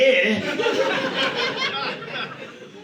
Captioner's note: audience laughing